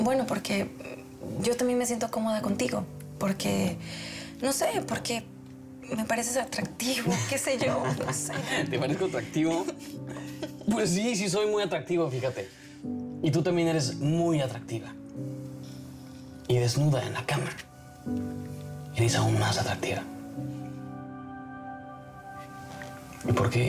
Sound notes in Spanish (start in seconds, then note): 7.6 El ríe